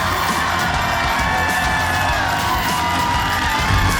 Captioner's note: audience cheers